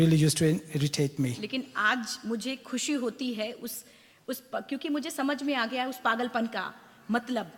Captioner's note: speaks foreign language